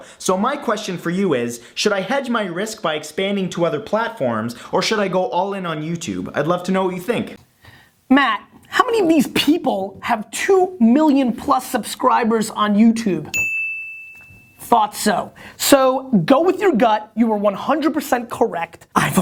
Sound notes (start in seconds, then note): 13.3 bell ringing